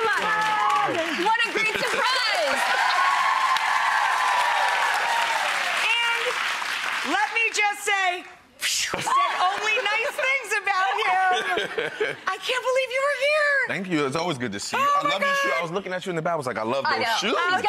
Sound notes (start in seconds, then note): 2.2 cheer and applause; 10.8 laughs